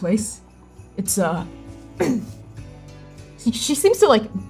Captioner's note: throat clearing